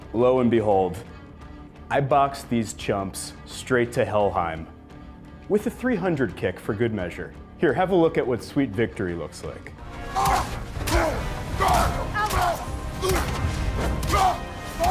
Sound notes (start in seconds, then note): 10.1 fists thudding; 10.1 character grunting; 13.3 soft dramatic music; 14.0 character grunting; 14.6 fists thudding